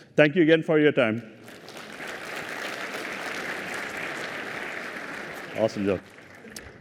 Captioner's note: applause